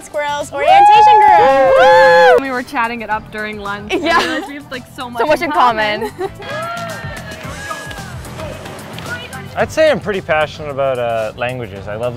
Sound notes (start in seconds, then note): 0.6 group cheering; 7.9 cheerful upbeat music; 7.9 overlapping chatter